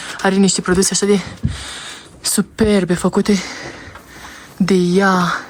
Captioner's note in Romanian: râsete